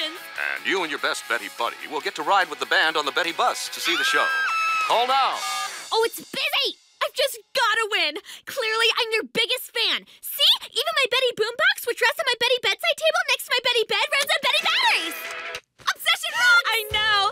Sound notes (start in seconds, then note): 3.8 both scream